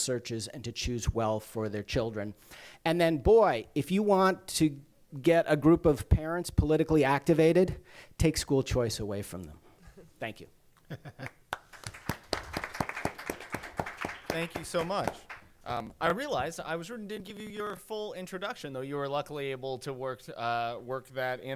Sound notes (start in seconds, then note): 11.5 applause